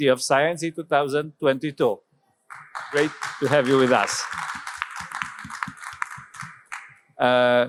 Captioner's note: applause